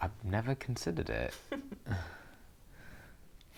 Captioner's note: Aquila laughs